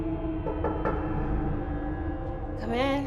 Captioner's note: muffled knocking